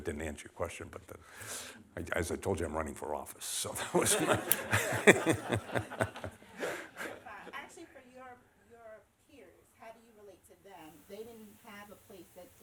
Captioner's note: laughter